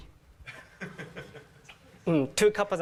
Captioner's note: laugh